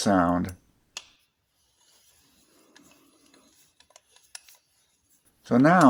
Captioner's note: smooth rotation sound